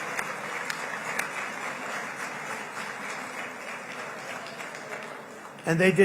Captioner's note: applause